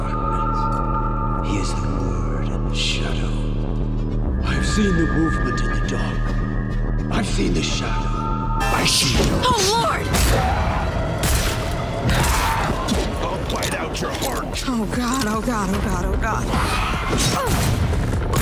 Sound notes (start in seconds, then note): 12.3 vampire roars